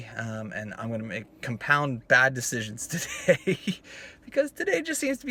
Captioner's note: laughs